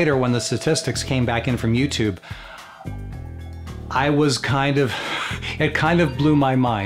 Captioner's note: chuckles